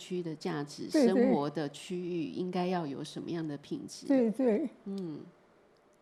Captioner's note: Mandarin